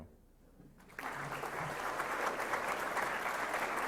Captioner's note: applause